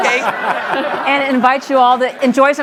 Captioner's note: audience laughs